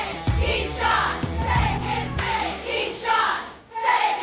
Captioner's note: crowd